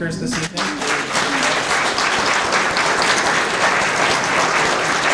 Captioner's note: audience clapping